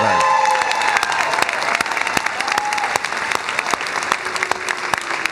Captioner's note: cheers and applause